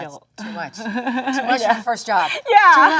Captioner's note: Jung laughs